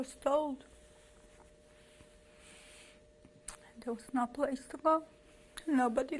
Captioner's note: pauses for 3 seconds